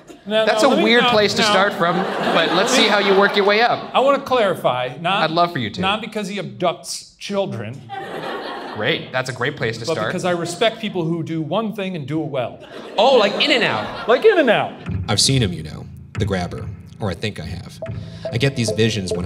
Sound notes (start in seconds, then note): 8.0 audience laughs